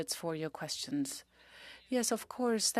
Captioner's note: speaking French